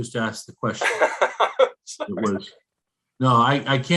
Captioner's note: laughing